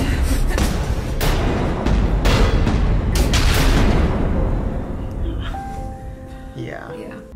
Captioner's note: dramatic thuds